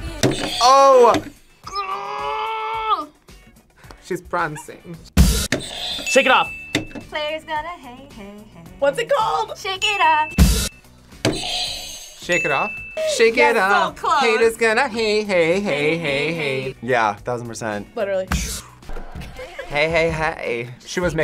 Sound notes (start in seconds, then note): 0.1 buzzer rings; 5.0 cymbal crash; 5.4 buzzer rings; 5.7 bell rings; 9.8 buzzer rings; 10.2 cymbal crash; 11.4 bell rings